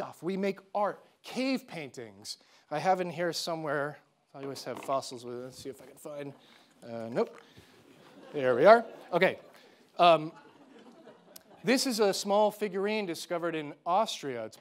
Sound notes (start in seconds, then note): 7.9 audience laughing